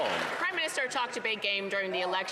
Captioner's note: some Applause